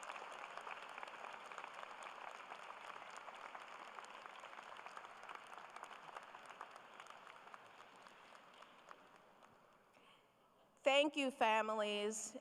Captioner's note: applause